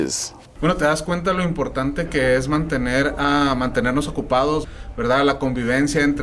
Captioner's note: speaking in Spanish